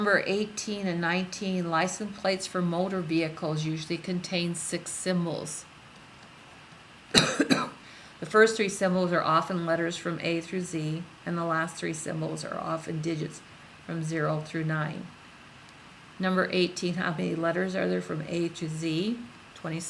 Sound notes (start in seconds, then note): 7.1 coughs